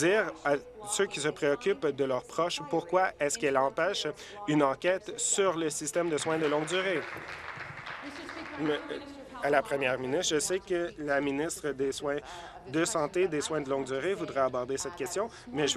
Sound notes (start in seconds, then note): 8.1 applause